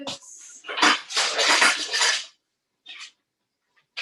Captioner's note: tools clatter